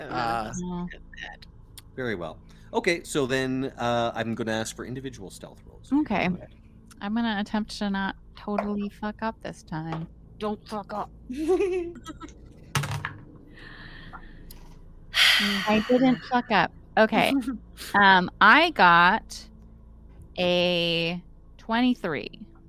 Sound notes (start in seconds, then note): 11.3 Cornette laughs; 11.3 Violette laughs; 15.4 Cornette laughs